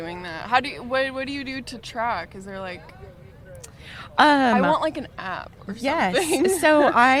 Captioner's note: laughs